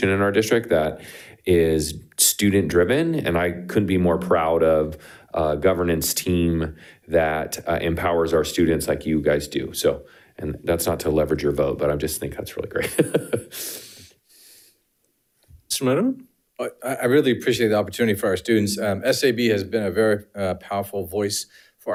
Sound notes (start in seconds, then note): 12.7 laughing